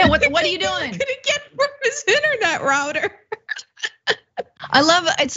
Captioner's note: laugh